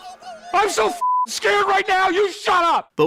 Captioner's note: beeping